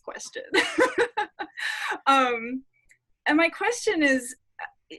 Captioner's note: laughing